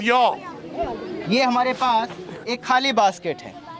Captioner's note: non-english speech